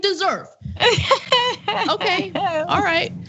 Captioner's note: laugh